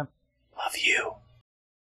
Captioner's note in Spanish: Susurra